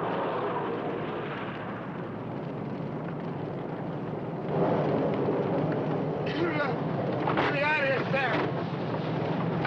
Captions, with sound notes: (fire crackling) - Let's get outta here, Sam!